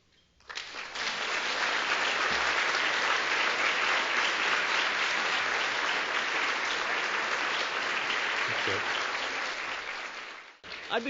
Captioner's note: applause